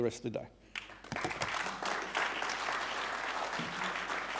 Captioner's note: audience clapping